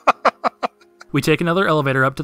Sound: maniacal Laughter

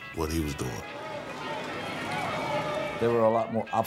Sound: crowd talking

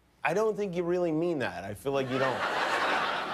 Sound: laughter

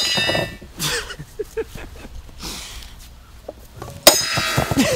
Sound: laughing

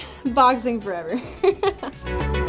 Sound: laughs; groovy, cheery music

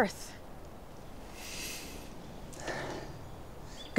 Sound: sniffing

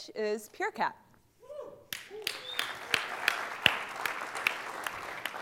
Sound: applause

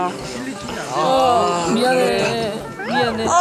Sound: average age 20 groaning

